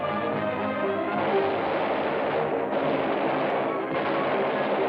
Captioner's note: gunshots